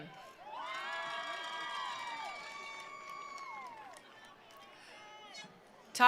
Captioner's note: attendees cheering; attendees applauding